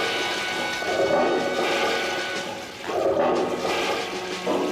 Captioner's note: razor buzzing; toilets flushing